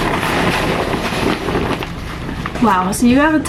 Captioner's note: bag rustling